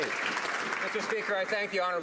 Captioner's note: some Applause